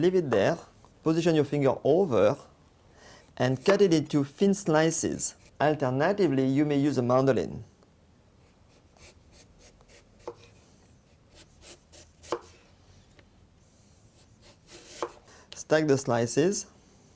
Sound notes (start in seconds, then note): 7.2 cutting sounds